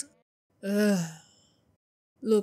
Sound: sighs

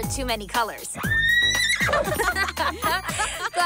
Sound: all laugh

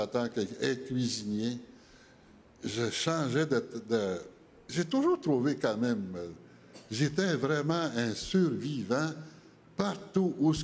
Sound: speaking French

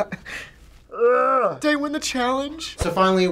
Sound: cries; groans in frustration

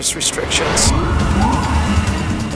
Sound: sirens blaring

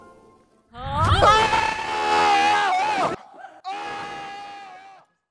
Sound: screams

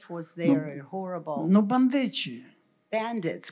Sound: foreign language

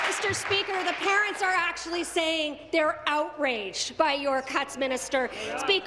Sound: applause

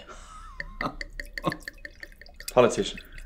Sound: Bernard laughs

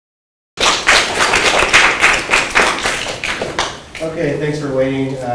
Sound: applause

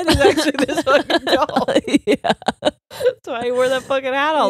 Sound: laughs

